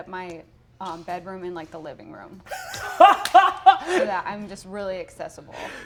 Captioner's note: Brennan laughs